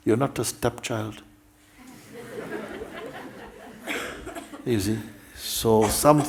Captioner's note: laughter